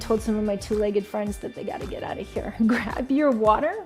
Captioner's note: chuckling